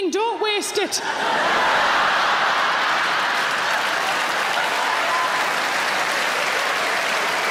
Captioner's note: audience laughing; audience applauds